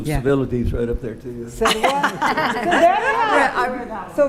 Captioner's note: attendees laughing